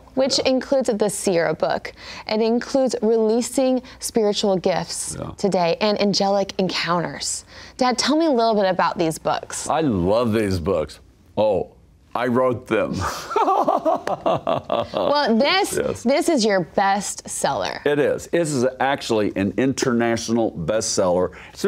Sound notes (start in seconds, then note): 13.0 laughs